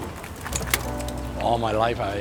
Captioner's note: people unloading bicycles